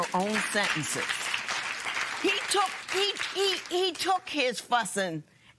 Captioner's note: applause